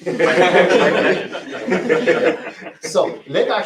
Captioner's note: laughter